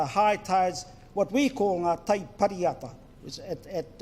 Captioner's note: foreign Language